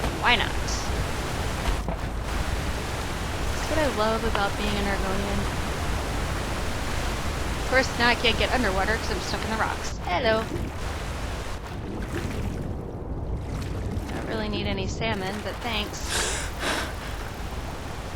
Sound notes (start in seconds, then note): 16.0 gasping for breath